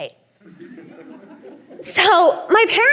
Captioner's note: laughter